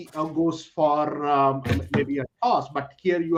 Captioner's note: audio distortion